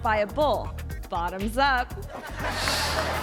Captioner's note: audience laughing; screen whooshes